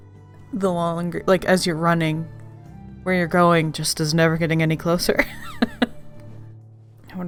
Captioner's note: laughs